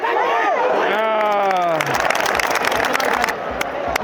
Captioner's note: applause of encouragement